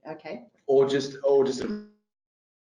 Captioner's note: audio distorts